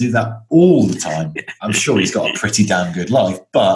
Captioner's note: laughs